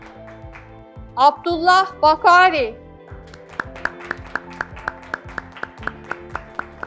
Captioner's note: graduates clapping